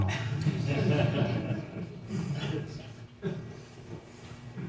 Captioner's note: audience laughing